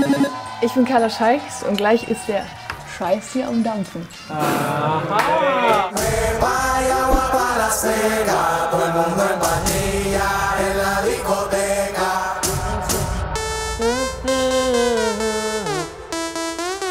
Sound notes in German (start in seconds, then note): 4.4 Freudige Laute